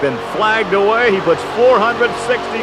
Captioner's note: voiceover; audience cheering; voiceover